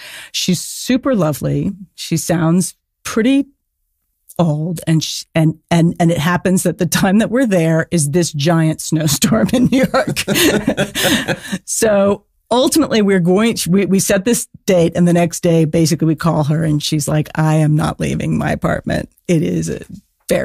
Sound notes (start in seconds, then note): 9.4 laughing